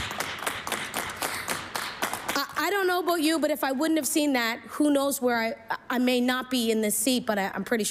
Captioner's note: applause